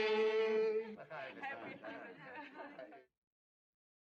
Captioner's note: all Laughing